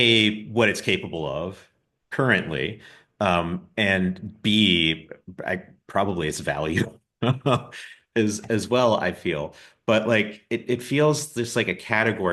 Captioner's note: polite laughs